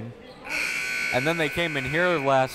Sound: buzzer goes off

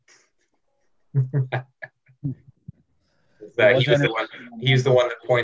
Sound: laughing

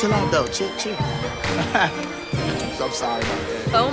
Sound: laughs

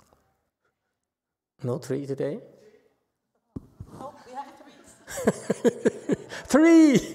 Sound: laughs

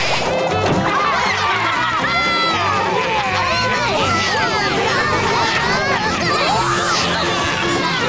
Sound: laughing

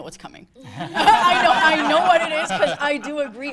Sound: people laughing

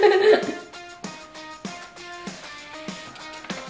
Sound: laughs

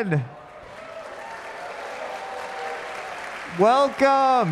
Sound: audience cheering

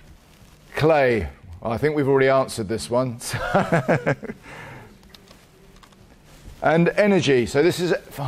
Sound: laughs

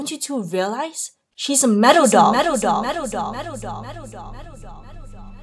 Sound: echoing

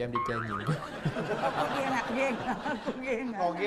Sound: laughing

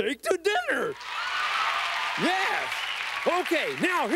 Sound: applause

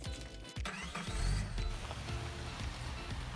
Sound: engine starts; upbeat music

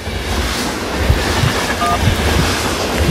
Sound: train noise; phone dial tone

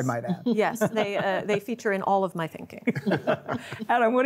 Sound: others laugh

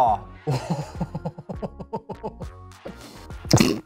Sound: laughing

